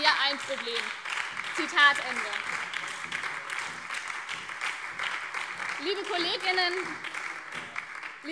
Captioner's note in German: Beifall BÜNDNIS 90/DIE GRÜNEN und vereinzelt SPD